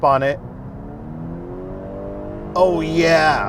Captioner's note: engine roaring